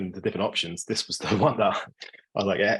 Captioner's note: laughing